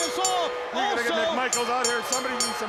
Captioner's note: bell ringing